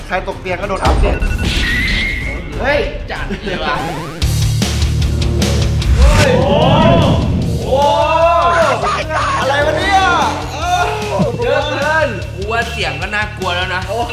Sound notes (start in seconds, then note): 3.3 chuckles; 4.3 rock music playing